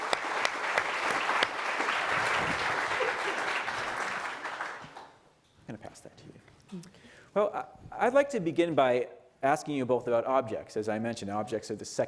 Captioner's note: applause